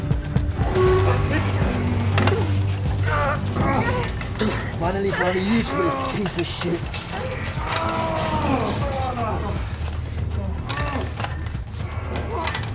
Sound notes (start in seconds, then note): 0.6 grunting; 9.5 heavy breathing